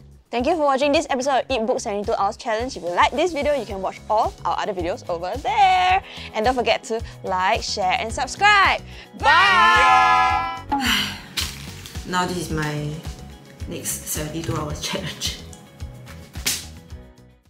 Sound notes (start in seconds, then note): 10.6 sighs